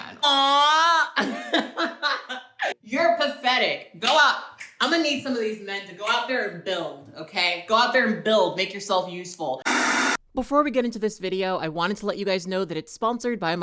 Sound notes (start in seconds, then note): 0.9 laughs; 9.6 static effect